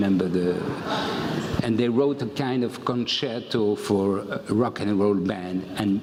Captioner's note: laugh